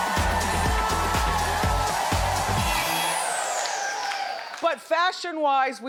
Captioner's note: energetic music; audience cheering